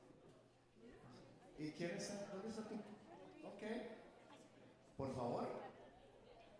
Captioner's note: speaker speaking Spanish